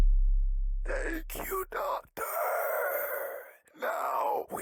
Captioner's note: music stops; grotesque voice